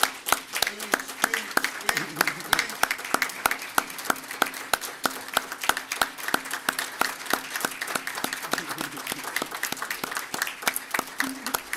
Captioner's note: applause